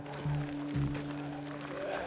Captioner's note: snarling